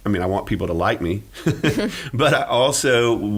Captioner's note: laughing